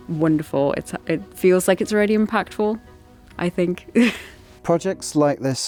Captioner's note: chuckles